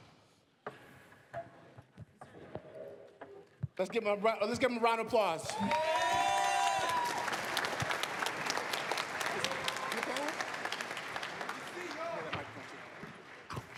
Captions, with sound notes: Let's give them round of applause. [APPLAUSE, CHEERS]